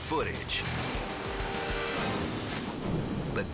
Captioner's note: waves crashing